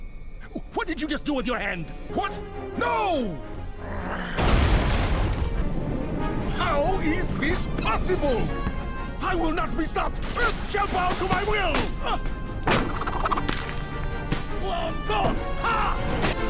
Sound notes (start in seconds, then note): 4.4 sound of ship starting to fall through the ice